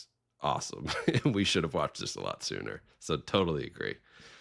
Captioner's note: chuckling